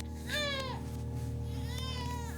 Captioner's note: baby cries